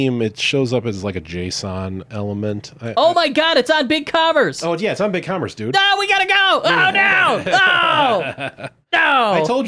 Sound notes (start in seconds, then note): 7.0 laughing; 7.5 screams